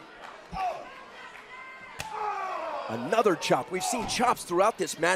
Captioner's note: crowd chatter